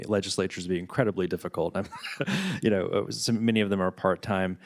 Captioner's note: chuckles